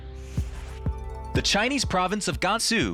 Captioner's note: air whooshing